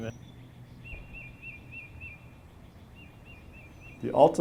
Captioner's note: birds chirping